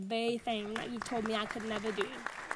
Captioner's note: audience applauds